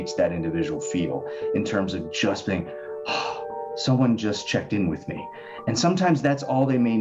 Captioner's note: sighs